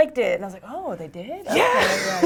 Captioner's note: laugh